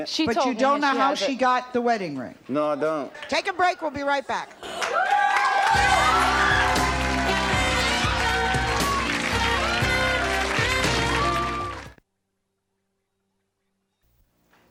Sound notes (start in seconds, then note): 7.6 applause; 7.6 laid back jazz music